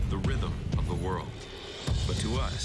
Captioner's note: heart beat